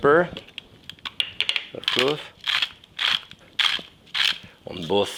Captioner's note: grinder crunching